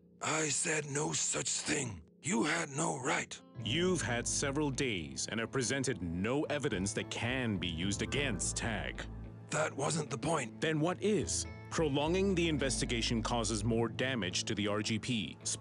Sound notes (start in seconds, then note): none